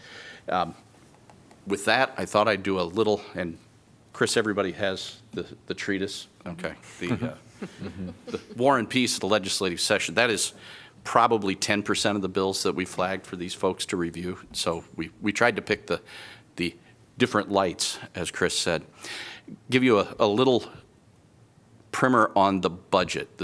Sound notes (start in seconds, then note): 7.0 laughter